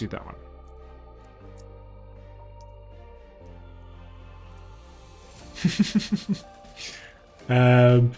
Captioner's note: laughs